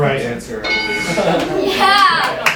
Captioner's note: ding!; clapping